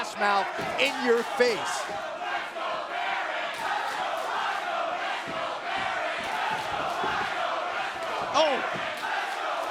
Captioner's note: crowd cheering